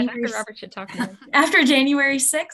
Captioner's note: chuckles